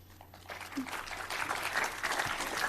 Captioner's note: audience applauds